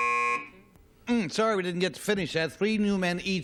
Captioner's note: buzzer